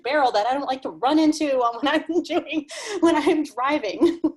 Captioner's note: laughs